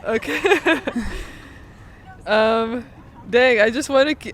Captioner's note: both laughing